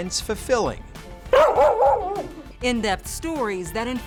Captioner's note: dog barks